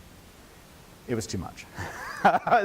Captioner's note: laughing